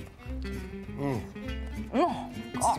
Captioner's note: growling